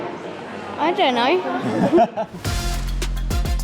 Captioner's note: chuckles